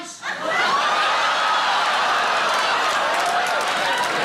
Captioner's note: audience cheering